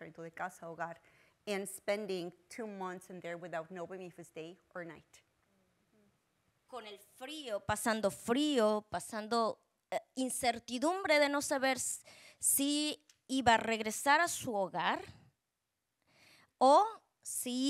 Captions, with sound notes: into the casa hogar and spending two months in there without knowing if it's day or night. (Speaking Spanish)